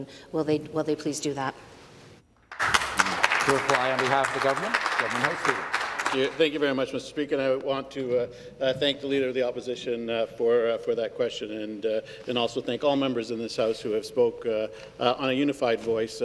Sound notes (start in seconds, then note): 5.5 some Applause